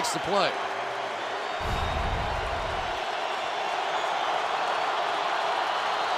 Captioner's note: cheering